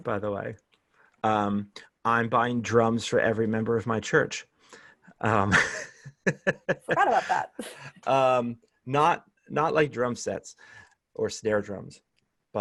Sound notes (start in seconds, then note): 5.4 laughter